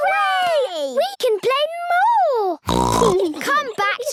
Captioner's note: snorts